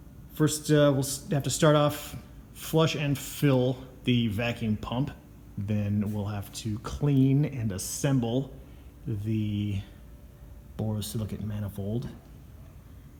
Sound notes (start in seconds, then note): none